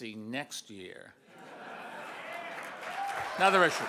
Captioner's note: audience laughs and cheers